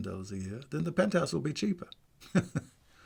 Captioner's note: chuckles